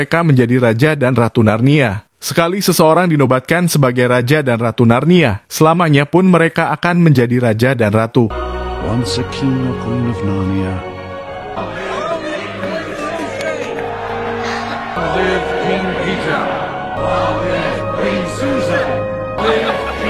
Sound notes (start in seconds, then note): 9.6 applause